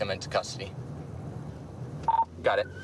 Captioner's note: radio beeps